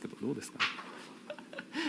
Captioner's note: laughing